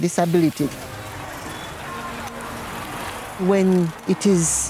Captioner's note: traffic sounds